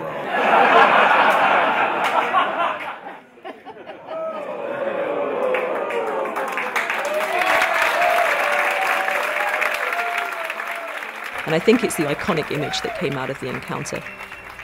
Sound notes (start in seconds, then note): 0.0 everyone laughing; 4.6 everyone commenting - ooh - and applauding